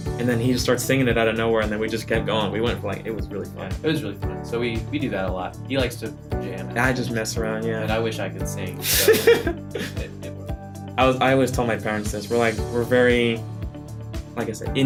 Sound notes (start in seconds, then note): 8.8 laughs